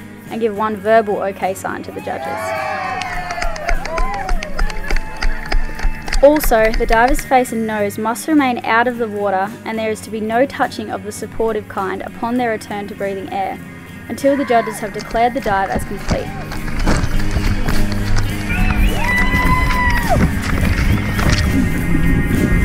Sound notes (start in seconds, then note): 2.0 crowd cheering and applauding; 16.6 water splashing; 18.6 crowd cheering and applauding